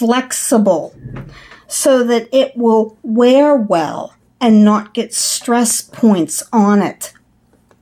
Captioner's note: chair rolling noise